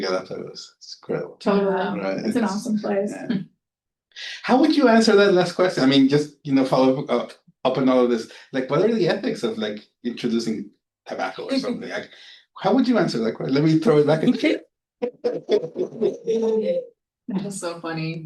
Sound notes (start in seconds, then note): 13.9 audience laughing